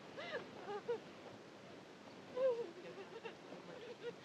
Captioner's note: sobbing